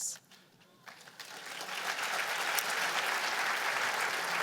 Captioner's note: applause